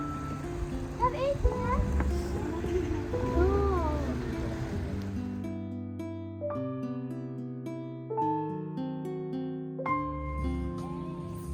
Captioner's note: background music; speaking German